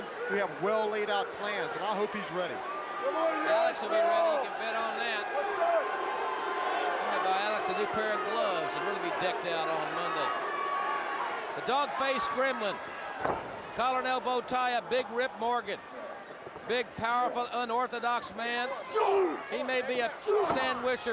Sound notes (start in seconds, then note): 2.6 crowd cheering; 5.5 crowd chatter